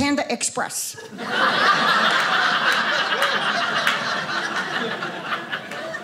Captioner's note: audience laughing